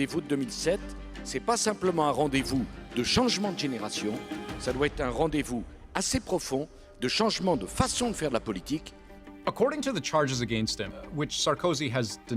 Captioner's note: speaking French